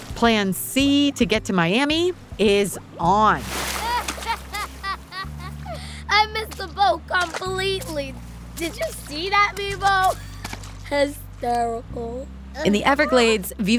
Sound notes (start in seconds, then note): 3.2 water splashing; 3.8 Gabi laughing